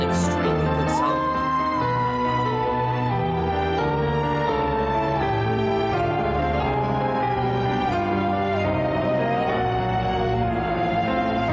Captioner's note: vocalizes